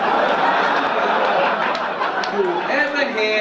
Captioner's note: audience laugh